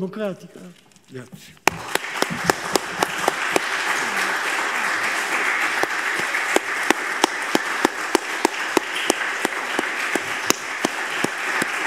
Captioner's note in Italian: Applauso